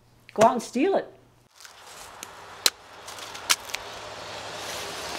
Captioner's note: chopping sounds